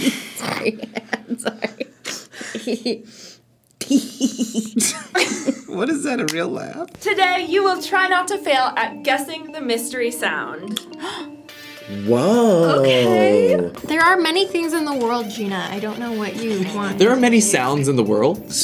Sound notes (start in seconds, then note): 0.0 laughs; 3.8 giggles; 3.8 laughs; 10.9 gasps